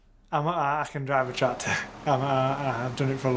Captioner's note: laughs